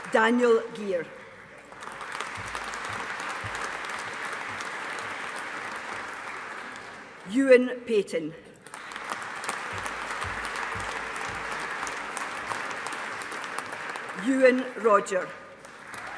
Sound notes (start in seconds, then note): 2.0 audience applauding; 8.6 audience applauding